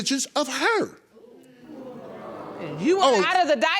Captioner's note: audience oohing